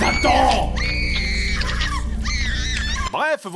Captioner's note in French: cris de souffrance